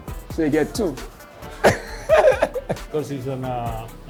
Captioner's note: laughs